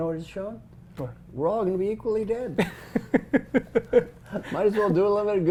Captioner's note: laugh